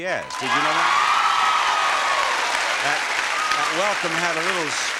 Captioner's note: audience applauding